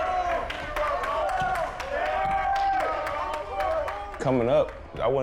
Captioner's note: team members cheering